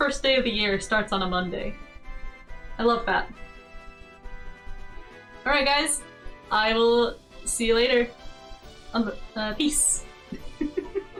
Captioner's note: stammers